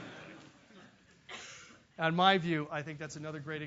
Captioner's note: laugh